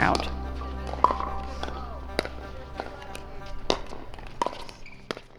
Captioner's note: pickelballs bouncing